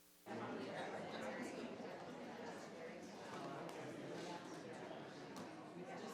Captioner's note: crowd chattering continues